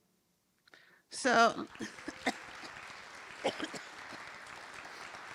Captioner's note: applause